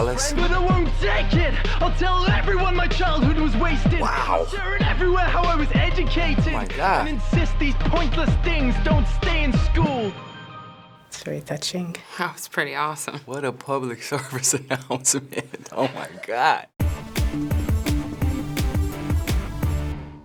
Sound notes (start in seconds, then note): 14.2 chuckling; 16.8 industrial music